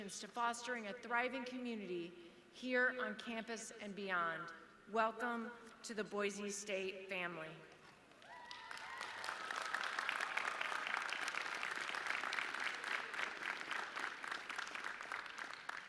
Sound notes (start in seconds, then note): 8.2 audience cheering